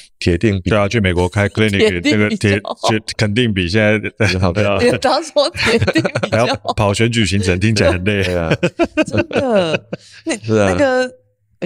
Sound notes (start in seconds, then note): 7.2 laughter